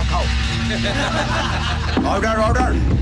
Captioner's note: Everyone laughs